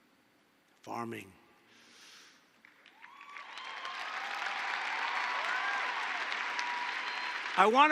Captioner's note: applause